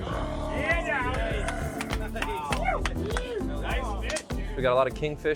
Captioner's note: fishermen celebrating